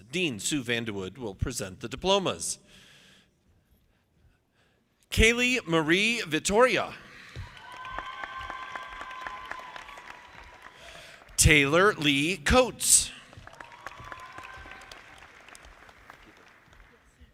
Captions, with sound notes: Dean Sue VandeWoude will present the diplomas. Kaley Marie Vittoria. (audience applauding) Taylor Lee Coates. (audience applauding)